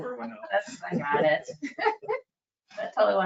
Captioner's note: chuckling